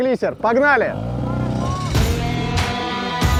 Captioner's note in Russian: Шум лодочного мотора